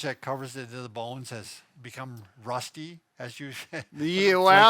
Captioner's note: chuckles